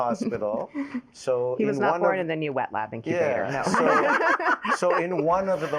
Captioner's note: laughs